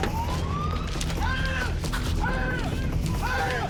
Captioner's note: sirens wailing